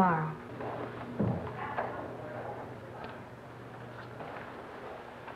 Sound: thumping noises

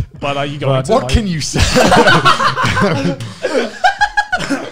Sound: laughs

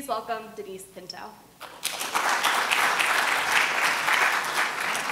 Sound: applause

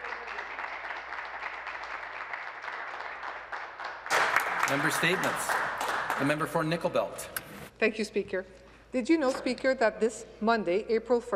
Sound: applause

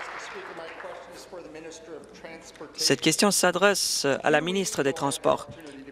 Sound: applause

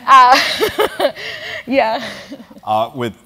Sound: laugh

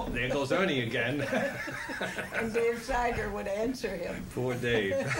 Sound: laughter

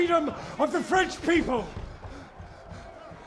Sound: breathing rapidly

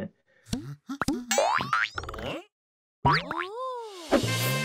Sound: springs bounce; trumpets play

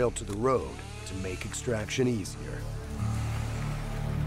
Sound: voiceover

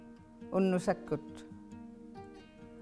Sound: inuktitut

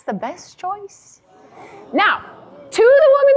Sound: audience gasps

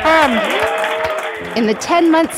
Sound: team cheering and applauding

